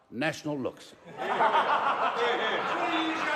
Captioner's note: laughter